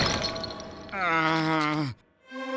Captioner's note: groaning